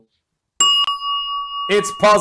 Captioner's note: bell rings